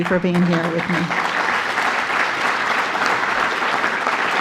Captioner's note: applause